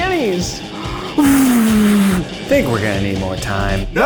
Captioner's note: blowing